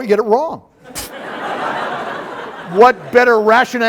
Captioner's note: laughter